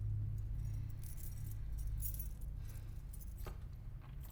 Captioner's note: keys jangling